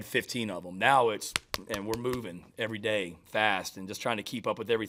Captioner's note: smacks hands